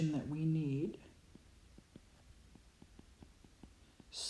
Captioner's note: writing